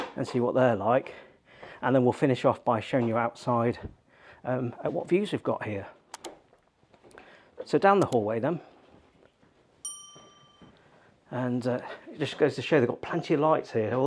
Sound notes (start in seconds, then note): 6.1 computer mouse clicking; 9.8 bell dings